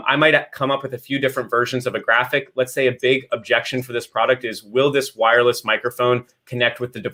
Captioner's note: none